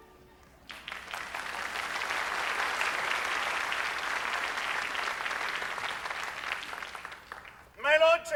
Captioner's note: applause